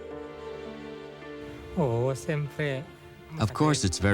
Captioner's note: non-english speech